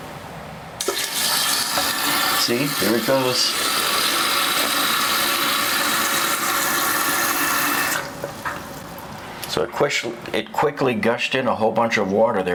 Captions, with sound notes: (water turns on) See, there it goes. (water shuts off) So it quickly gushed in a whole bunch of water there,